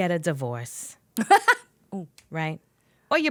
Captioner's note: laughing